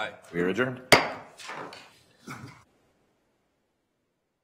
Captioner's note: gavel bangs